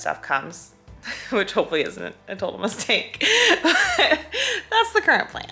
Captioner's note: laughs